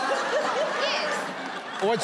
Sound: crowd laughing

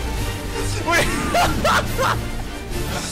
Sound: seal laugh

